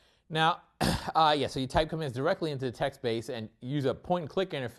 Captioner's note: cough